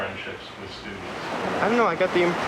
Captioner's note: street noise